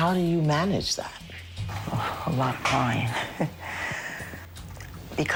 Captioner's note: chuckles